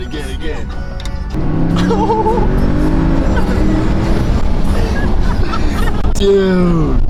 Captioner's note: Porsche revving